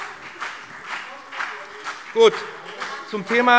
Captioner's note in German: Beifall BÜNDNIS 90/DIE GRÜNEN und vereinzelt CDU - Zuruf SPD